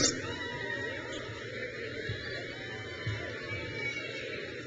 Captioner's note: crowd cheers